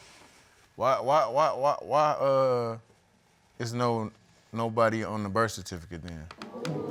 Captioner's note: stammering